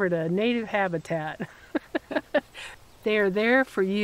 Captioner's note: both chuckling